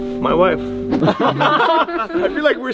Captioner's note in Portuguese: risadas